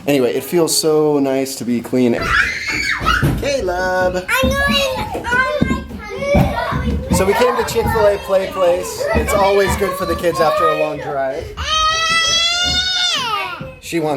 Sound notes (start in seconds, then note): 2.1 squealing; 11.6 screaming